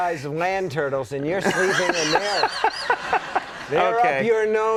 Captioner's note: Conan laughing